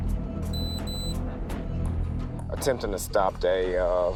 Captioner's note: radio beeping